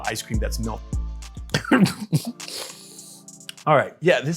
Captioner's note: chokes